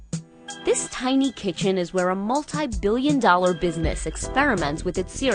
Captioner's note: voice-over